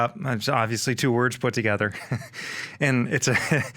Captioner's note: chucking